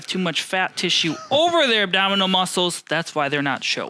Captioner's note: softly laughs